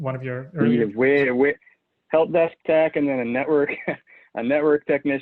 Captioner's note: chuckles